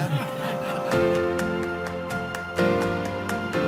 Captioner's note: laughing